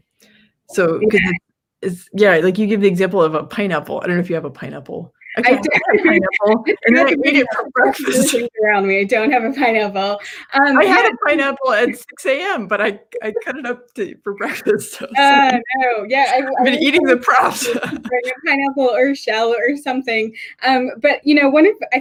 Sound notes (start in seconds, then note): 5.2 laughs; 16.2 chuckles